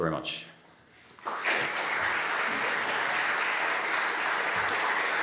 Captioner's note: audience applauding